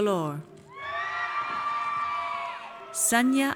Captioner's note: audience cheers